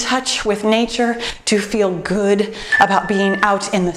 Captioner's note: timer beeps